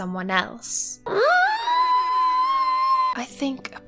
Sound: squealing

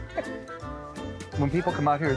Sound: laughing

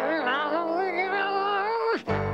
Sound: groaning angrily

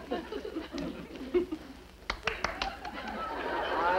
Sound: Mrs. Stevens claps

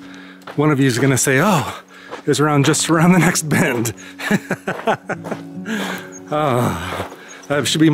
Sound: laughter

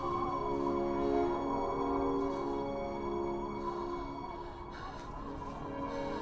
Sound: wind blowing; heavy breathing

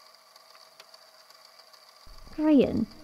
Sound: click

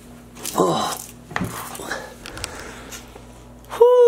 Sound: grunts

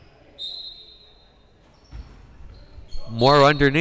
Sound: whistle blowing

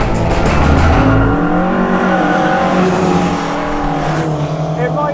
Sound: upbeat rock music continues; engine revving

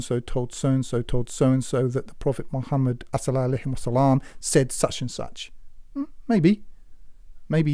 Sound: speaks Arabic

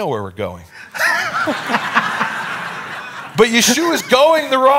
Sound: audience laughing

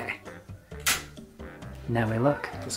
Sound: clicks

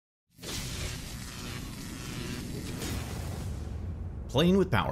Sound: electricity crackling

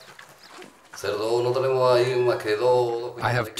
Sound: he speaks Spanish

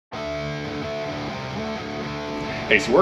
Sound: fish splashing

